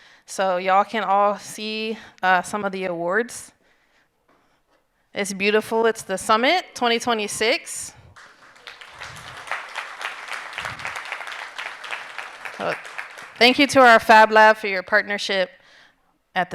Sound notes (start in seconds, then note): 8.1 audience applauding